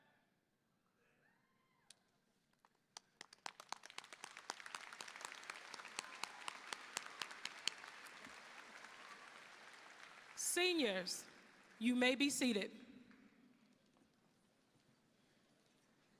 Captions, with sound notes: (audience applauding) Seniors, you may be seated.